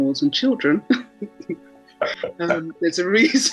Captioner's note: chuckling